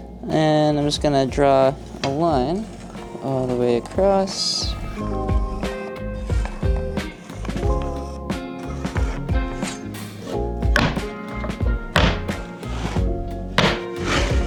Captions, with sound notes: and I'm just gonna draw a line all the way across. (mellow music) (boards banging)